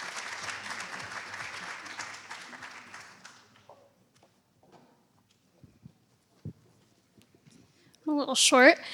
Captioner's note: applause